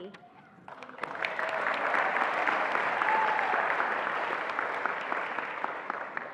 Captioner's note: attendees applauding and cheering